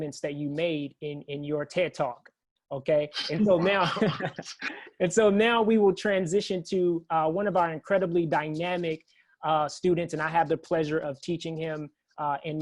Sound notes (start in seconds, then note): 3.5 laughter